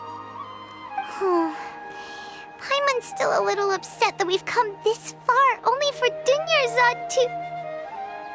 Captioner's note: sigh